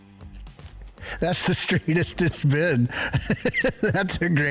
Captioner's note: chuckles